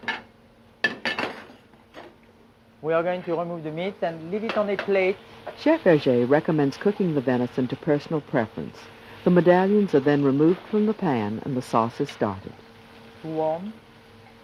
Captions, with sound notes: We are going to remove the meat and leave it on a plate. - [Voiceover] Chef Verge recommend cooking the venison to personal preference. The medallions are then removed from the pan, and the sauce is started. - Too warm.